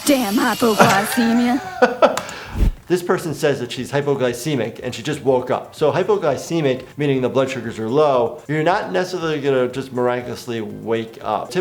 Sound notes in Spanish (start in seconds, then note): 0.7 reír